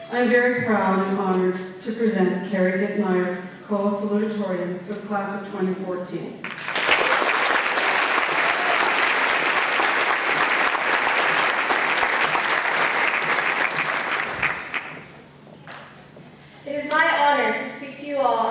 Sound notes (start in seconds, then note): 6.4 applause